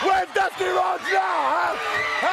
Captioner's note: crowd cheering